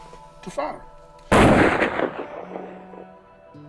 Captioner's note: rifle Shot